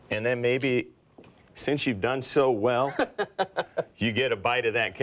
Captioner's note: laughs